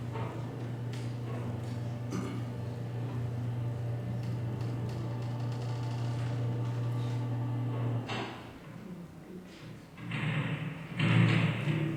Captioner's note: clanging noises